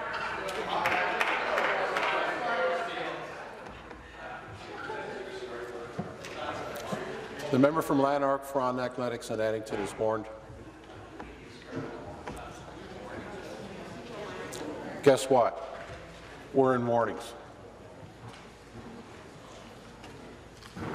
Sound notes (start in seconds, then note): 4.3 conversation din